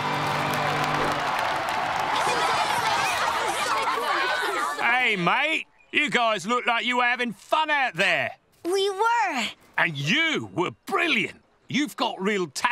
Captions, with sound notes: [cheering] [shouting] Hey, mate. You guys look like you're having fun out there. We were! And you were brilliant. You've got real talent.